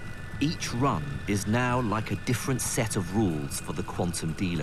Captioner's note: voiceover